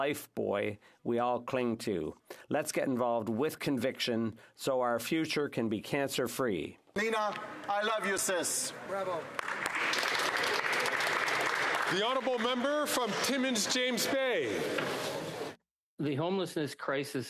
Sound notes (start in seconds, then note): 15.5 applause